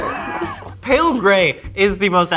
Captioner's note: laughing